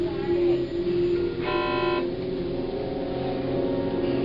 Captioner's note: buzzing